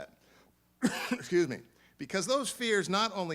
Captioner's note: coughs